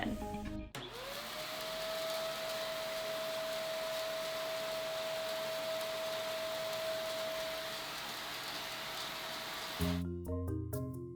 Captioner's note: vacuum cleaner whirling